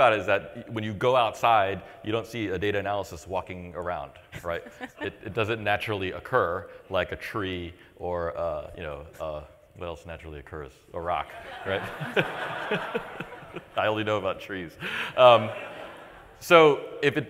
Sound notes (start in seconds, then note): 11.2 laughter